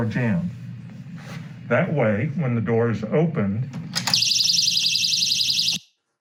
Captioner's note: alarm sound